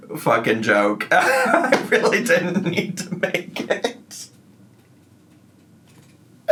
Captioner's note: laughing